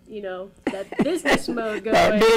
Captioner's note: laughs